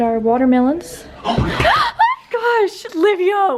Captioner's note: laughing; scream